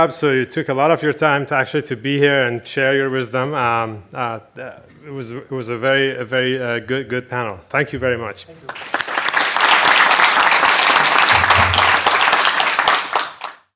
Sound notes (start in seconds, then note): 8.6 applause